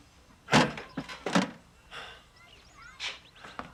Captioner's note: sighs